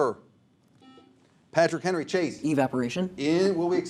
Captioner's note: buzzer sounds